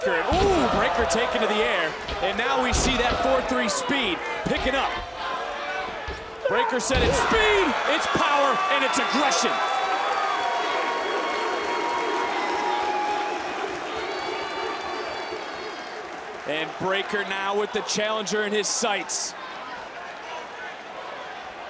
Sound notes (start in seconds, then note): 10.5 applause